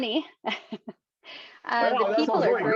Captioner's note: laughs